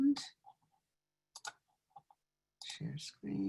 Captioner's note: mouse clicks